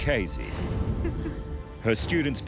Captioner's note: chuckles